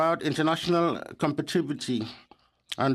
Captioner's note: speaking French